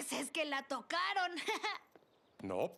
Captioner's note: nervous laugh